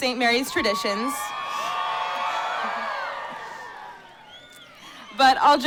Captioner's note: cheering